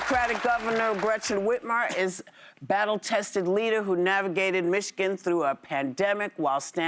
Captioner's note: applause